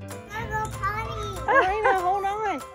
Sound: laughing

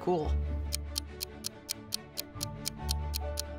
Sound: ticking

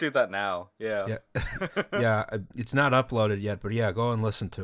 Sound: laughter

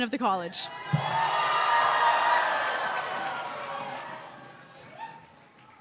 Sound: cheers

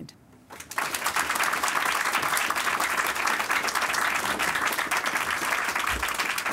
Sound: clapping

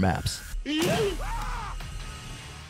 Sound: screams of terror

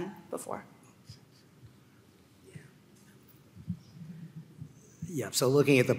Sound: panelists murmuring

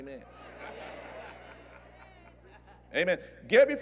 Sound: agreement & Laughter

